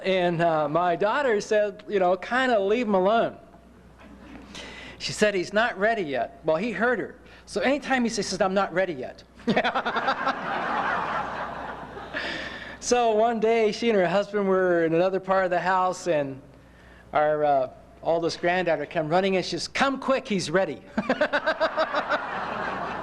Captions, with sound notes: and my daughter said, "you know kinda leave alone." She said, "he's not ready yet." well he heard her. So anytime she talked to him he said, "I'm not ready yet." (Laughter) So, one day she and her husband were in another part of the house, and... our oldest granddaughter came running in she said, "come quick he's ready." (laughter)